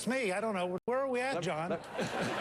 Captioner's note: laughter